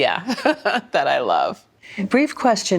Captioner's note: laughs